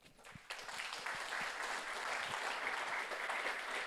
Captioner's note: audience applauds